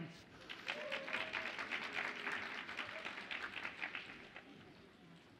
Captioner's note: audience applauds and cheers